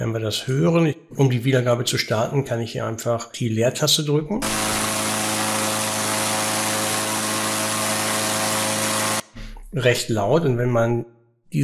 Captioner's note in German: Gebläsegeräusch